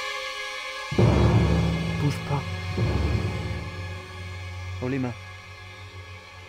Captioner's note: man speaking in foreign French